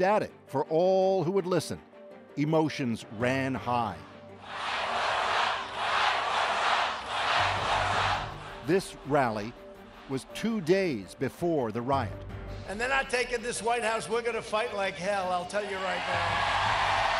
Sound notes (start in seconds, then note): 4.4 chanting